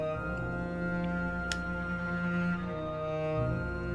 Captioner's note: pen lid clicking